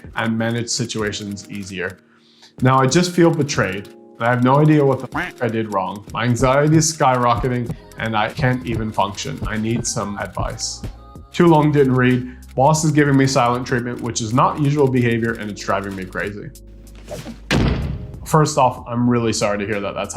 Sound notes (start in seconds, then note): 5.0 duck quacking; 17.4 door banging